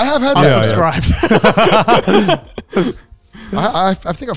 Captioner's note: all laughing